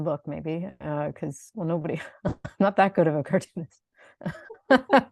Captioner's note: both laugh; laughs